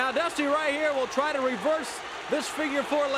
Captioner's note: crowd cheering